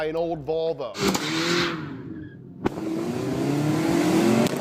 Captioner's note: car revving